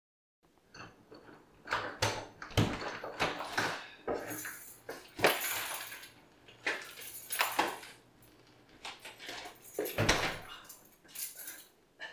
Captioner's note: keys jingle, lock turns